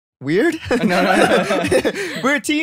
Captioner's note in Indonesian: tertawa